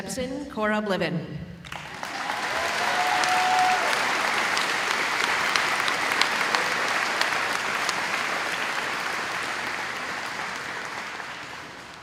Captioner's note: audience applauding